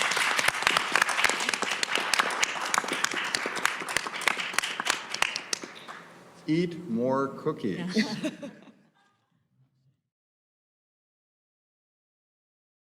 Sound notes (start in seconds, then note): 0.0 audience applauding; 7.9 laughs